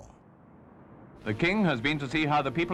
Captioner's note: radio Announcer